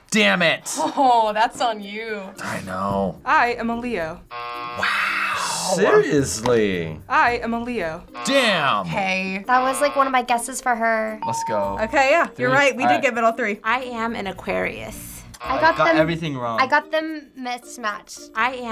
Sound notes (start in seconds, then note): 4.2 buzzer rings; 8.0 buzzer rings; 11.2 bell rings; 15.4 buzzer rings